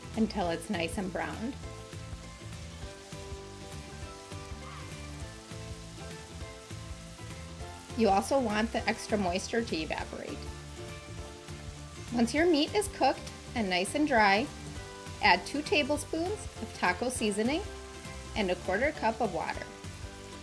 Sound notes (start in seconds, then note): 2.3 bright music; 2.3 meat sizzles; 20.2 bright music; 20.2 meat sizzles